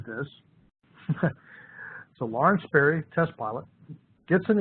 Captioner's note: chuckles